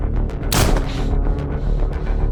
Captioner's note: gunshot